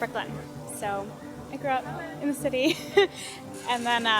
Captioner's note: laughs